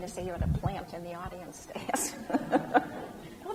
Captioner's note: laughs